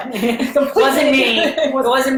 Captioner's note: both laughing